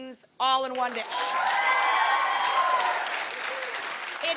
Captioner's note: audience cheering